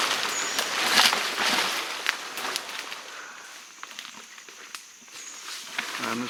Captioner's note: heavy shuffling of leaves and foliage